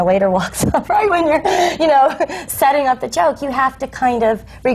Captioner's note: laughs